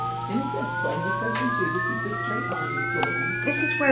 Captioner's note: rising calculator tones